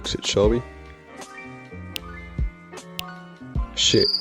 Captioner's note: snaps fingers